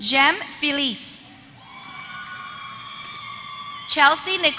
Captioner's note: applause